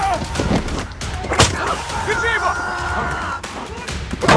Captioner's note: guard 2 speaks Russian; guard 1 grunts